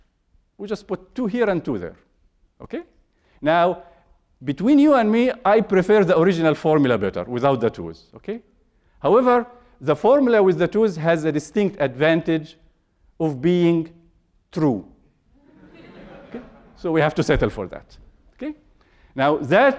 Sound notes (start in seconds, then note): 15.4 laughter